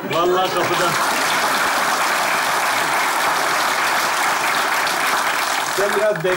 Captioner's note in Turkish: Alkış sesleri